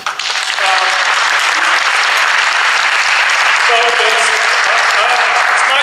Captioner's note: audience applauds